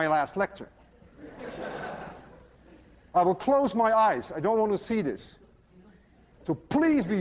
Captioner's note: laughter